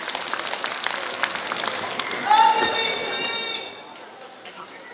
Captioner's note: applause